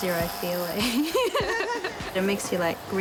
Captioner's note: laughing